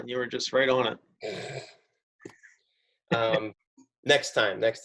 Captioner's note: giggles